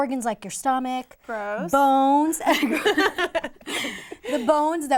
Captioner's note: laughter